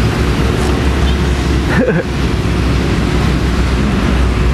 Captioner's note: chuckle